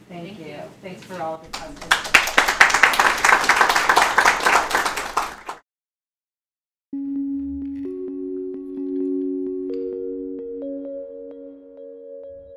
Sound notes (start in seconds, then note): 1.5 audience applauding; 7.0 light music